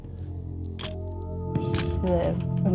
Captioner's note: camera shutter click